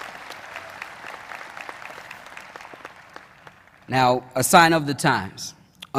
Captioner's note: applause